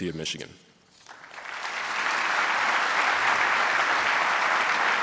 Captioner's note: audience applauding